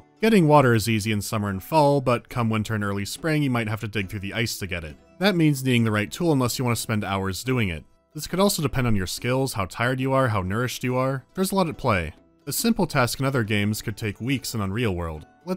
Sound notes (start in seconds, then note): none